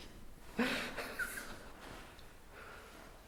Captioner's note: laughing